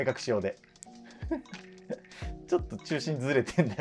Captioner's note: laughing